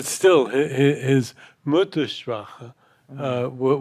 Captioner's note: speaking in German